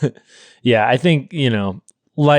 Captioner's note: laughing